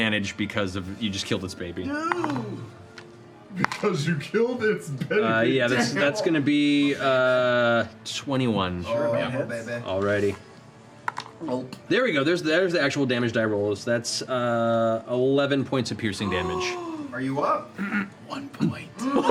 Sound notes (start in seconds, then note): 16.5 gasp; 18.5 whispers